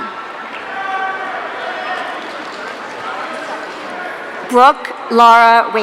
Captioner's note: audience cheering